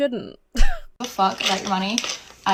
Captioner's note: wheezes